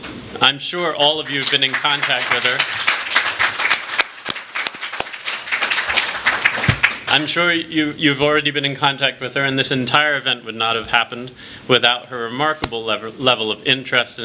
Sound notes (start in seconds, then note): 2.7 applause